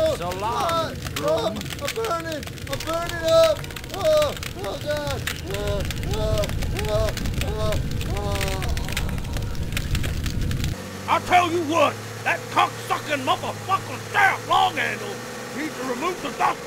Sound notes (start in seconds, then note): 5.4 panting and moaning